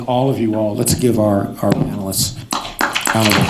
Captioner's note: applause